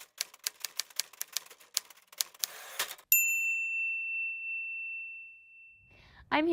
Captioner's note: ding